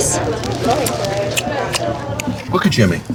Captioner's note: smooching